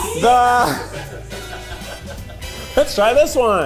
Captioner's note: cast laughing